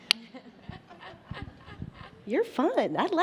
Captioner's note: panelists laugh